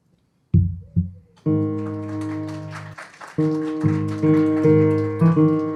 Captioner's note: applause, piano notes playing